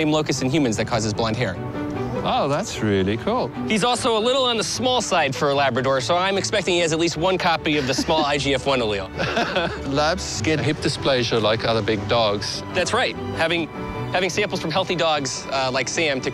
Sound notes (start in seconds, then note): 9.1 laughs